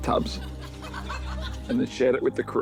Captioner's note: laughter